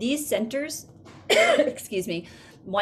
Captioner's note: coughs